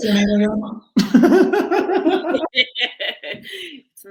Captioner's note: laughing